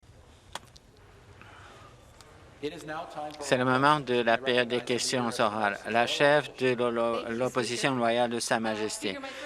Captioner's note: conversation din